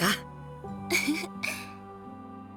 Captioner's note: chuckle